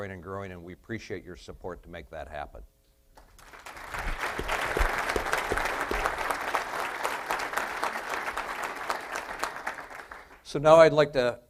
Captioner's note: applause